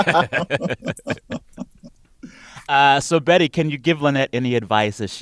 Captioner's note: laughter